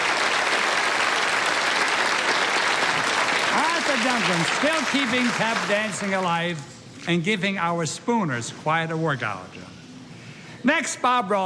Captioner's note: applause